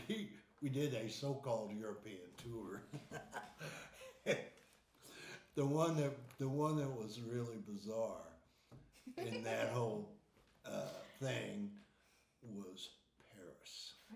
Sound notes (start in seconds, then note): 2.7 laughing; 9.0 laughing